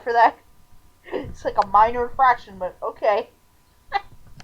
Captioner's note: laughing